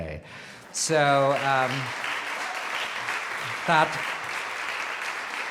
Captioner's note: audience applauds